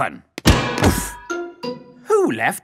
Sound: thuds

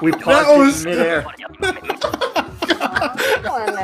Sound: laugher

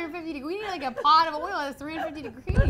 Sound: girls laugh

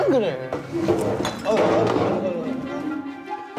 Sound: stumbling

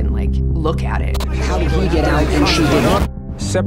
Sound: cacophony of news audio

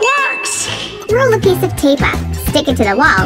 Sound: funny voice

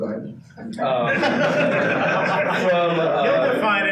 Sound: participants laughing

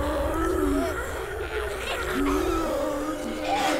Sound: zombies snarling

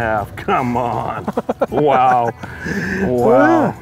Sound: laughter

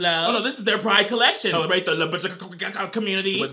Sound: speaks gibberish

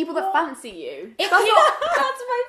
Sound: laughing

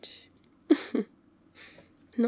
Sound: laughs

